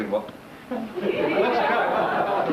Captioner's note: laughs